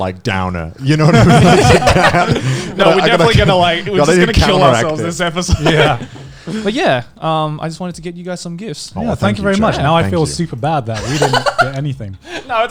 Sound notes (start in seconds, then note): 0.9 all laughing; 11.0 laughing